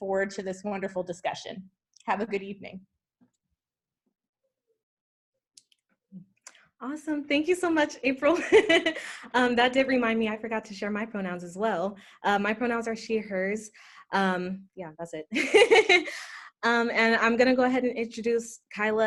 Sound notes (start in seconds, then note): 16.1 laughter